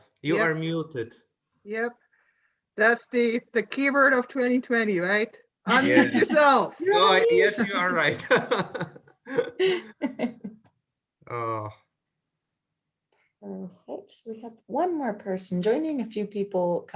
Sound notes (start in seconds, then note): 9.2 laughs